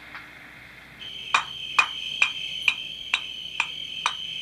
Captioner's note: hatchet on brick